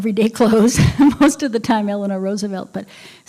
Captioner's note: laughter